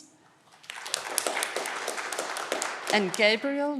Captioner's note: audience clapping